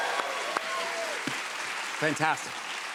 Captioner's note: applause